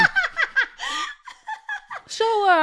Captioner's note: laughter